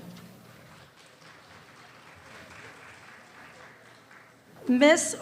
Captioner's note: very small applause